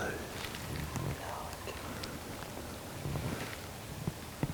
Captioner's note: whispering